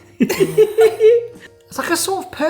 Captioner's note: both laughing